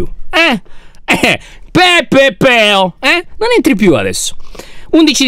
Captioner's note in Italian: fa un verso di scherno